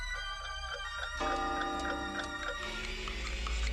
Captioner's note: clocks chiming